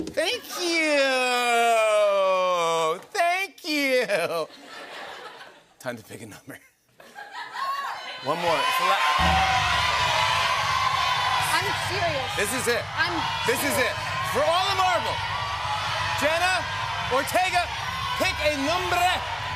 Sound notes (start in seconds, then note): 3.9 laughter; 7.4 audience shouts numbers; 9.0 drumroll